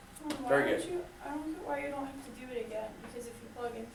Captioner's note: voiceover